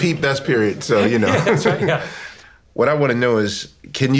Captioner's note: laughs